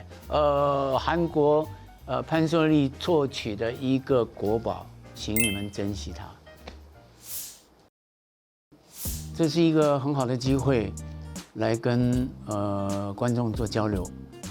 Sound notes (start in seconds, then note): 9.1 soft music; 10.0 speaking in Chinese